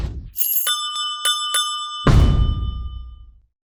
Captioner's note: bells ringing